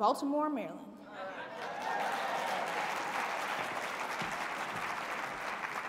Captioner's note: audience clapping and cheering